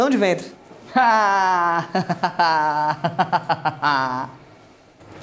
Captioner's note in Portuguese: rindo forçadamente